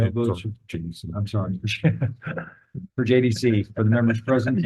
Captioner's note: laughs